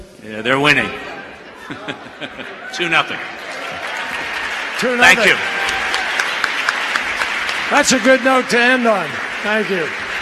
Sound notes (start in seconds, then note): 3.7 applause; 9.5 applause